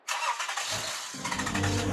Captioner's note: engine starts; pensive music